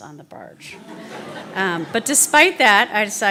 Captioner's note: laughter